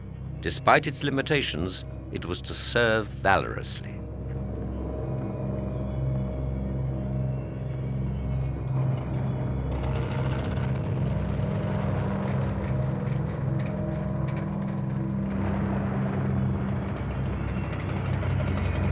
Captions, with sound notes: Despite its limitations, it was to serve valorously. (dramatic music) (plane roaring)